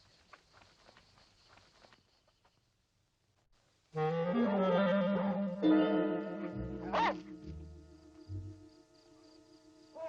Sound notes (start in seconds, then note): 4.0 dog barking; 5.2 light dramatic music